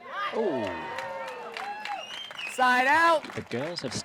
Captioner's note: cheers